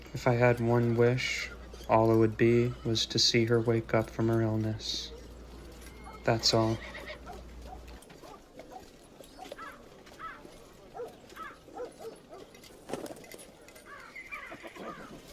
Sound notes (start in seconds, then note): 9.8 birds chirping; 10.1 dogs barking